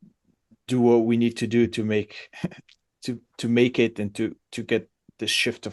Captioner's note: laughs